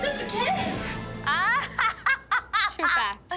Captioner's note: laughs